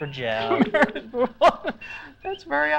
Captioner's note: laughing